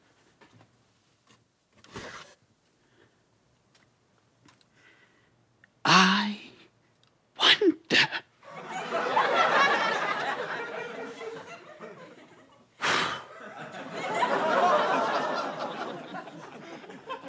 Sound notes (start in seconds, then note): 8.4 audience laughter; 12.8 blows; 13.3 audience laughter